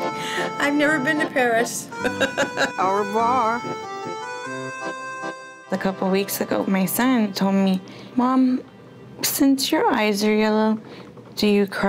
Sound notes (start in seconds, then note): 1.9 laughing